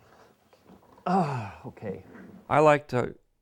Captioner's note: sighs